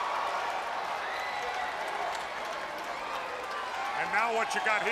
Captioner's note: crowd cheering